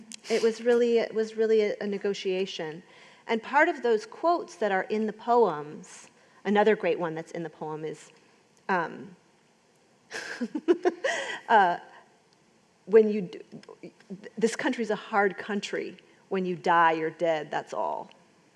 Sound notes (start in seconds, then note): 8.7 laughs